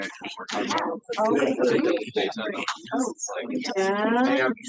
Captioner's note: participants chattering